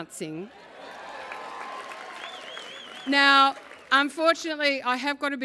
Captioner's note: applause